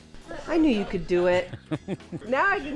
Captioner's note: chuckles